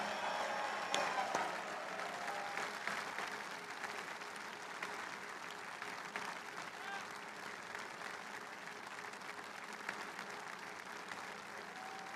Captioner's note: applause